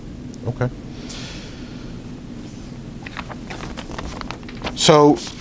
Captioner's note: rustles papers